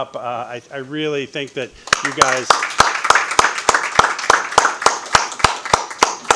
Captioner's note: audience applauding